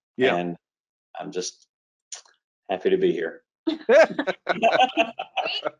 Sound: laughs

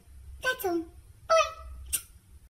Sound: smooch

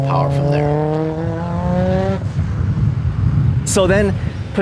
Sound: car engine revving; wind whooshing

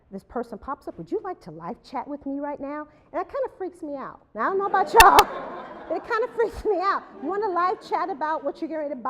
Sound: laughter

